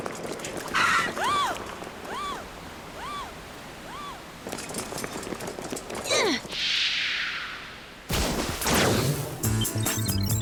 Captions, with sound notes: What the-- Seize them! [gasps]